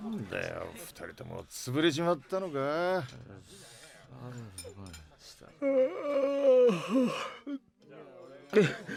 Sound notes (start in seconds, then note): 5.5 yawn